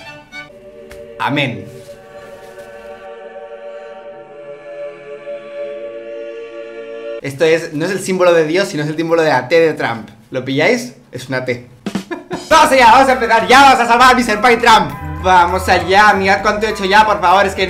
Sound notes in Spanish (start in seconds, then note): 0.4 música religiosa; 12.0 risas